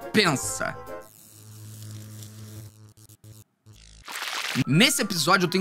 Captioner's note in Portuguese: som de eletricidade